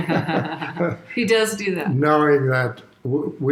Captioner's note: chuckles